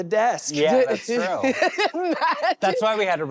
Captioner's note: laughing